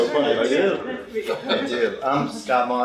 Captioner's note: laughter